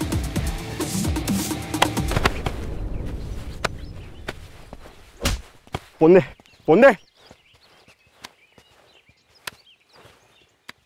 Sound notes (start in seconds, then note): 1.8 Thud on ground; 5.1 Slaps